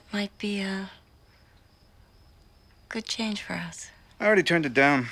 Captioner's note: none